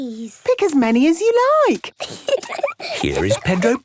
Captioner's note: giggling